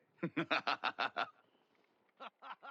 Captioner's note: laughs